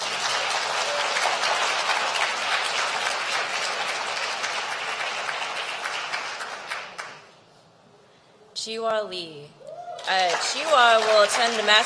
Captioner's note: applause